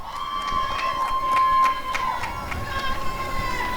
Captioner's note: applause and cheering